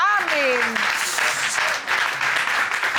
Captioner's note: audience applauding